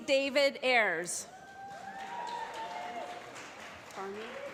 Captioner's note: applause